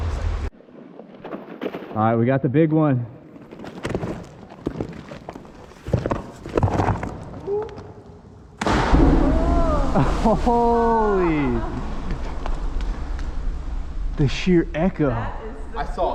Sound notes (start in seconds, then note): 8.7 boom!